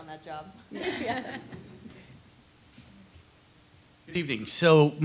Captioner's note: laughing